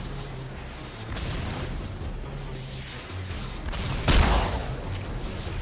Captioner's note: dramatic music; gun firing; dramatic music